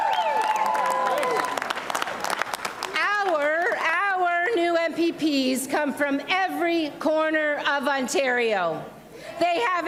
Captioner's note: cheers and applause